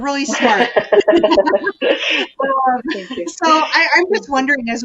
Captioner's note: all laugh